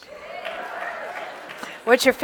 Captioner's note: audience cheering and clapping